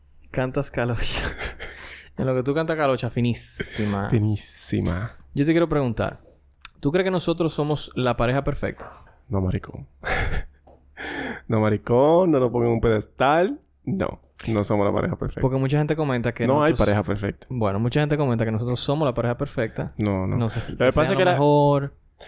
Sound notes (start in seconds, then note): 1.0 laughs; 10.0 laughs